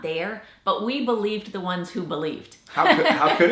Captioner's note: laughs